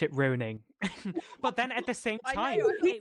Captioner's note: laughter